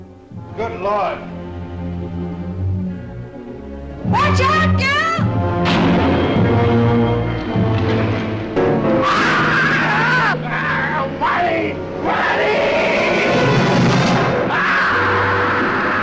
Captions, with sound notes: Good lord. - Watch out, Gil! (dramatic music) (Alex screaming)